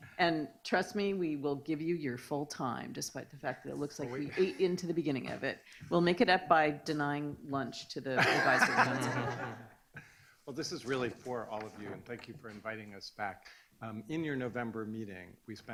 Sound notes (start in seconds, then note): 8.2 laughing